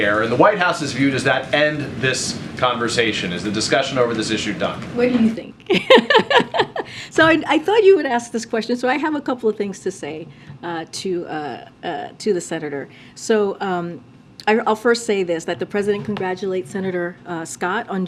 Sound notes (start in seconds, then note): 5.7 laughs